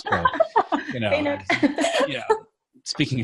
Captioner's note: laughing